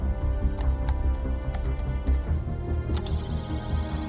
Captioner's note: keyboard clacking